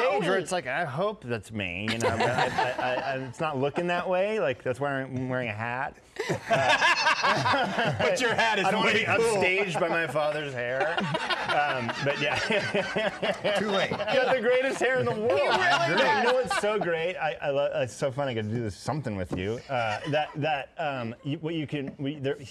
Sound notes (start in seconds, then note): 6.2 laughs